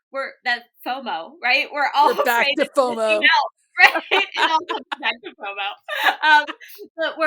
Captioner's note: laughter